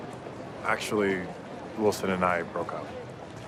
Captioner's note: none